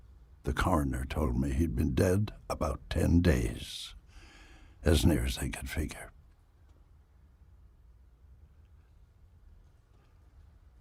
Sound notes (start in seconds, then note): none